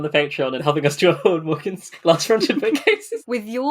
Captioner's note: laughing